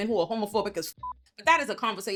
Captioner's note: beep